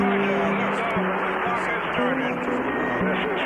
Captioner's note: static